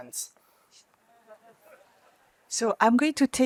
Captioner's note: laughter